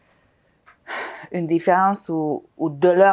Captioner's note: sighing